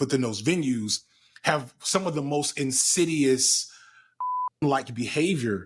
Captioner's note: beep